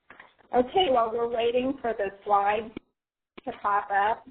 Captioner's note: voiceover